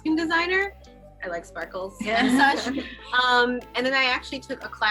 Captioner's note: aquanauts giggle